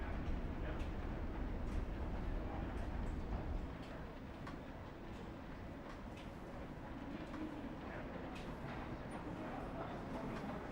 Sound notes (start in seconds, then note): none